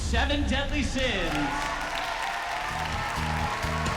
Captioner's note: cheering, applause